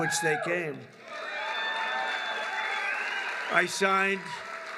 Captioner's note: applause